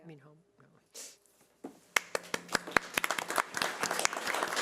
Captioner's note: audience applause